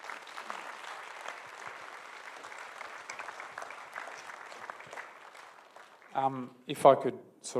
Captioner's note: applause